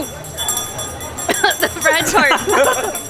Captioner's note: coughs